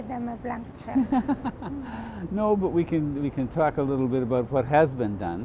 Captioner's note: laughs